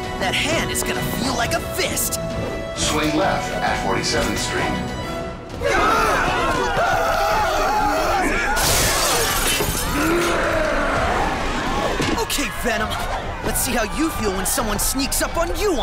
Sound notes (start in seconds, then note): 5.6 screaming; 9.9 roars